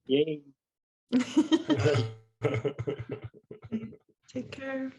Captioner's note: laughter